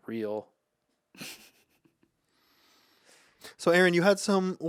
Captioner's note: laughs